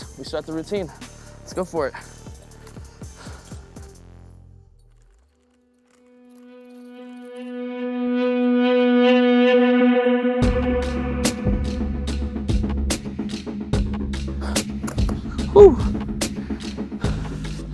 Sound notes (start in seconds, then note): 2.6 chains rattling; 7.9 music grows intense